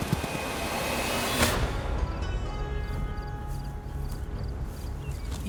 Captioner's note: gunshot